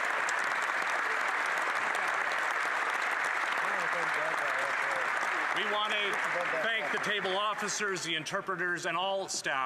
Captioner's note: applause